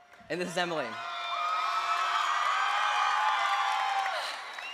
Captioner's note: cheers